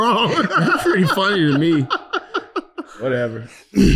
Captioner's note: laughing